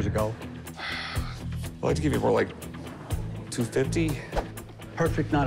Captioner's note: sighs